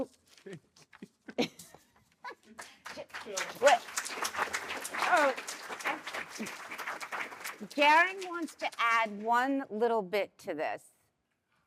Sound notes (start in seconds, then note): 1.2 laughter; 2.4 applause